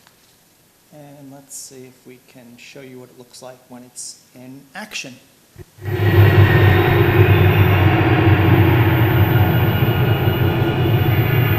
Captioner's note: electronic noises